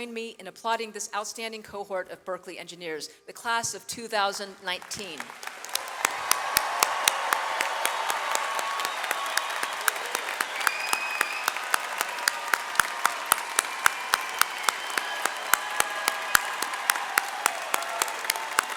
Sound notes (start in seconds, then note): 5.1 audience applauds